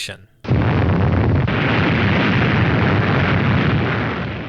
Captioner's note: explosion